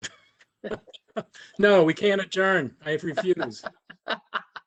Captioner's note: laughter